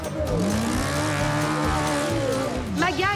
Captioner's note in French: acclamations